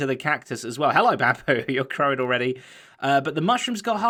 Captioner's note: chuckles